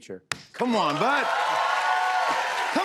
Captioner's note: cheers and applause